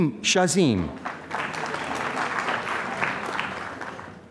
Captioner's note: applause